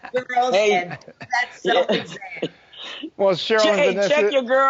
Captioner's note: laughing